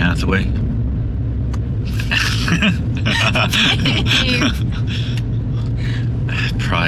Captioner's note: laughter